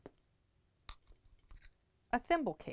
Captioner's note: clinking